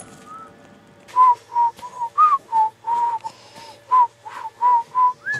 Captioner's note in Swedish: visslar